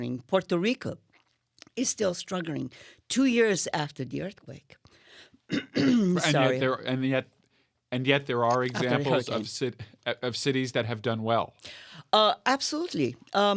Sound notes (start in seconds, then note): 5.5 clears throat